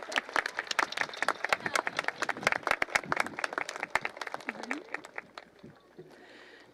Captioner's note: applause continues